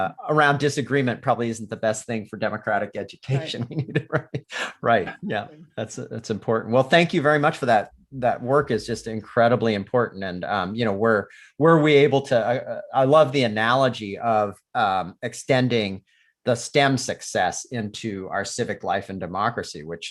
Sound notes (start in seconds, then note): 3.3 laughs